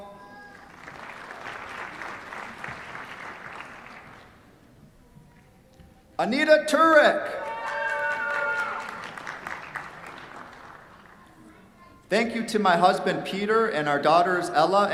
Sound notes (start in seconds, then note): 0.4 applause; 7.3 cheers, applause